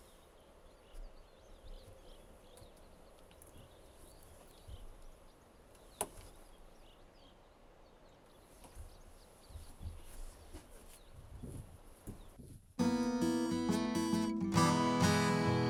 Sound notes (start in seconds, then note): 6.0 clothes rustling; 12.8 soothing music